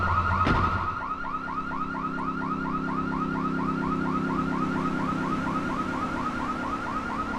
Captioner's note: sirens wailing